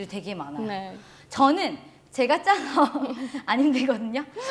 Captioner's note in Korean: 웃음